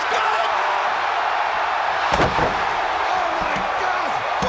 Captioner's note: crowd cheering